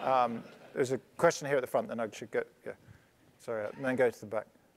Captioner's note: laugh